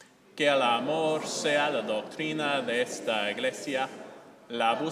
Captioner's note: speaking in a foreign language